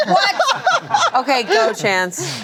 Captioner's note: laughs